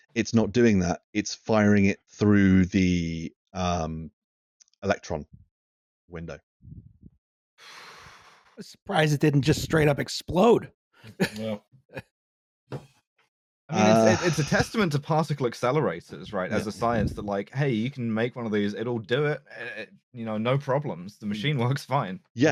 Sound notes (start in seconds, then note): 7.6 someone blowing out again; 11.1 laughter